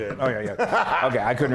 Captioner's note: laugh